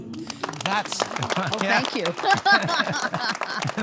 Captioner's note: audience applauding